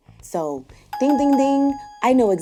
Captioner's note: beeping